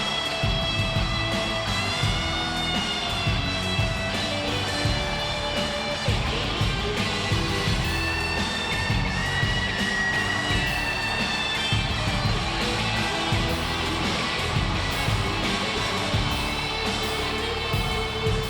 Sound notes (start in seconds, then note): 10.5 crowd cheering; 10.5 upbeat music continues